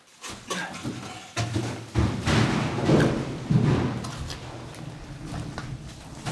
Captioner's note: crashing and echoes